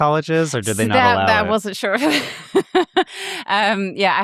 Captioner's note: laughs